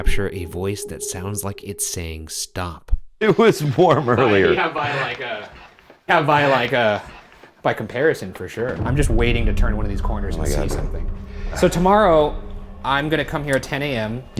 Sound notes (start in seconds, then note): 5.6 ghost whispers